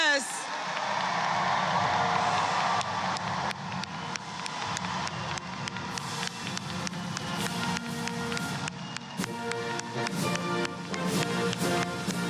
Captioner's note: applause